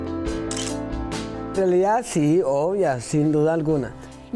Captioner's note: speaking foreign language